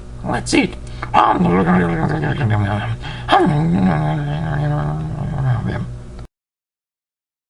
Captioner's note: eating sounds